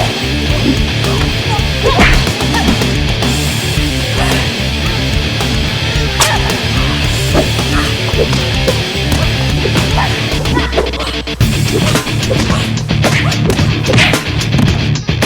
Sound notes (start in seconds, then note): 7.6 both grunting; 11.2 upbeat rock music continues